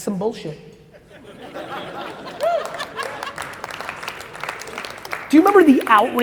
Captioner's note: audience laughs and applauds